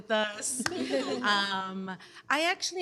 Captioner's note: laughter